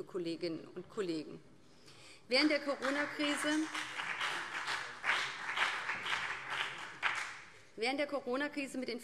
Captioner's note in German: Beifall BÜNDNIS 90/DIE GRÜNEN